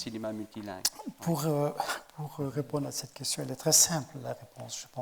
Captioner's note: speaking in French